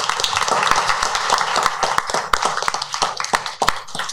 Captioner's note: applause